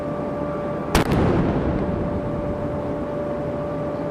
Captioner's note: cannon firing